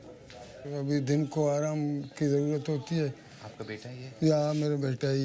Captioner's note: speaking foreign language